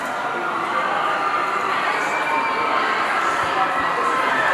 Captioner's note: people shouting